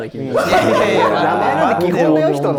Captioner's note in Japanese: ：笑い